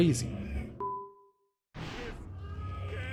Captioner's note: bing